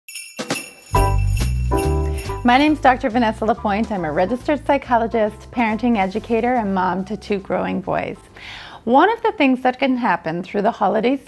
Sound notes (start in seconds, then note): 0.0 jingling bells; 0.4 upbeat music